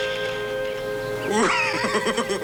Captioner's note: laughing